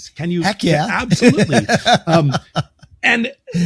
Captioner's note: laughs